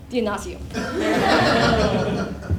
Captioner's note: laugh